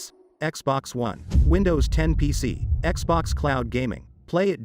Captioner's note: dramatic sound